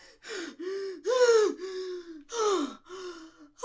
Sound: heavy scared breathing

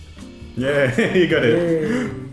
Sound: laughs

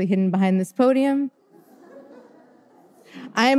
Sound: audience laughter

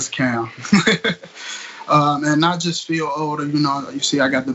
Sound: laugh

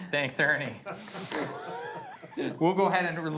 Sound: laughing

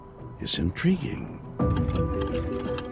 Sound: scraping

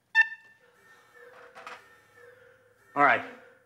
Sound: alarm wails

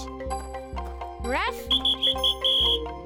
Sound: whistle blowing

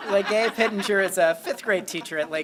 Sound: laughter

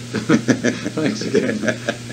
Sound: laughs

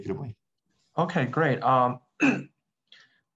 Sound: clears throat

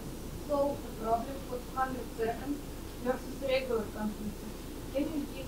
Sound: speaking faintly through microphone

